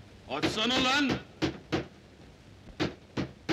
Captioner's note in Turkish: kapiya vurmaya devam eder